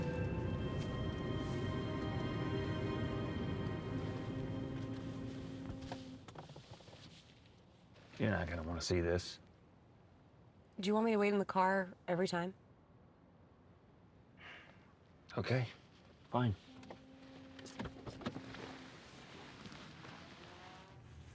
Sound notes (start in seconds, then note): 5.0 boat horn blaring; 14.4 sighs